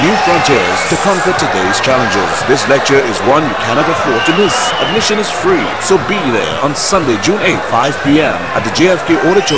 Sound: wild applause and cheering for 22 seconds

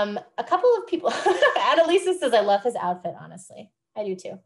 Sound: laughs

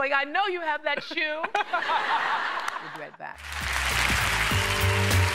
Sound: cheers and applause

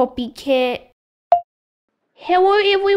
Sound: click!

